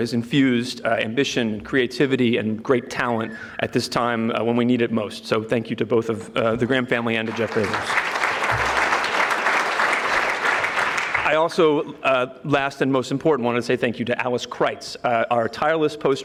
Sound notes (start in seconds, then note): 7.0 audience clapping